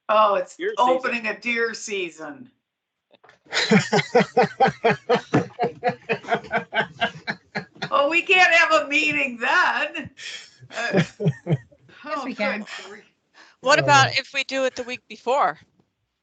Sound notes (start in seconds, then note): 3.5 people laughing